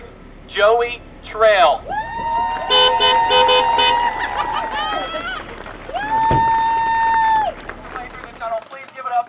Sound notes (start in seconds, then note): 1.9 cheers and applause